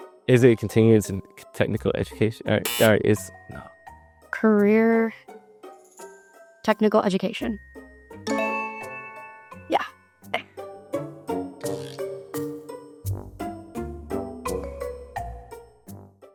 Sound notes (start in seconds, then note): 2.6 incorrect buzzer noise; 8.3 correct Answer Chime